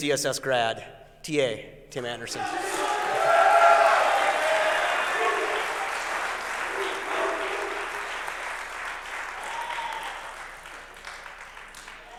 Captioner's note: applause